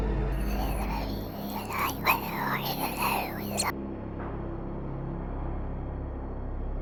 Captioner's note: ghostly whispers; suspenseful music